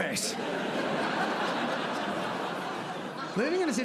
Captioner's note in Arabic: ضحك